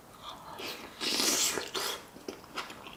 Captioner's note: slrruurp; crunch Crunch